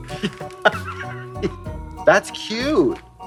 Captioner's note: Katya wheezing